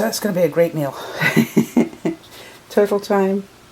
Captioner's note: laughter